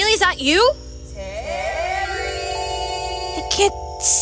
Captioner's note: distant echo